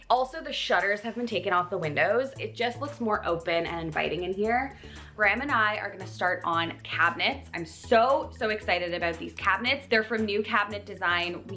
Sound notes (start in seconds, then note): none